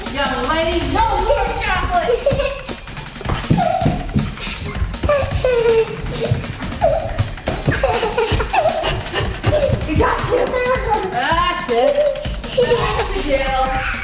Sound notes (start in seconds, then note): 2.8 laughs